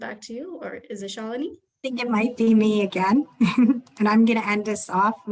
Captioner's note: giggles